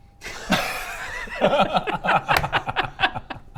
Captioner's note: judgemental laughter